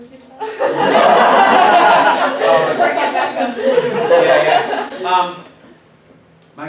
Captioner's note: class bursts into laughter